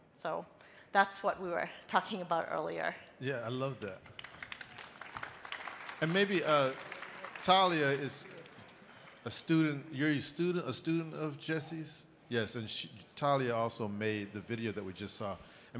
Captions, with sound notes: So that's what we were talking about earlier. - Yeah, I love that. (crowd applauding) And maybe Talia is a student, you're a student, a student of Jesse's? Yes, and she Talia also made the video that we just saw.